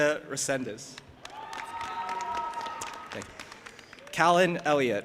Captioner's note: audience applauding and cheering